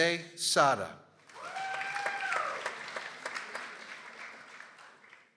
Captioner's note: people applauding